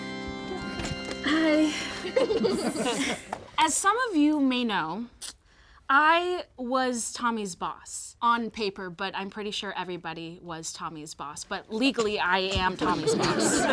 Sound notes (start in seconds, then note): 1.2 people laugh